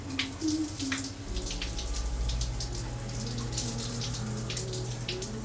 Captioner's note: humming